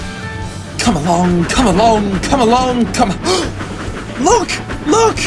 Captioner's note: gasp